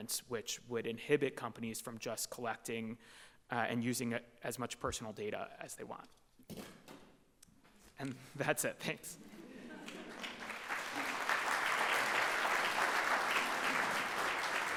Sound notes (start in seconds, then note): 9.3 audience chuckles and applauds